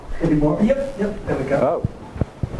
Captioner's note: voiceover